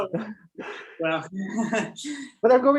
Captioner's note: laughs